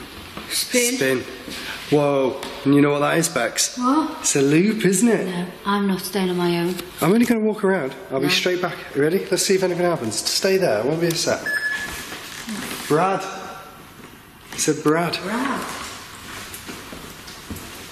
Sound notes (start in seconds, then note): 11.4 beeping